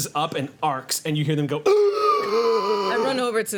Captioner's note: gasps